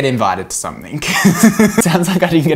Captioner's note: laughs loudly